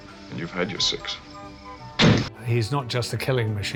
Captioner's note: gunshot